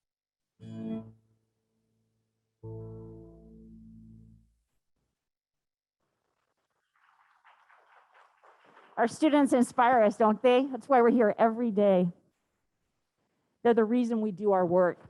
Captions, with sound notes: [ Applause ] >> Our students inspire us, don't they? That's why we're here every day. They're the reason we do our work.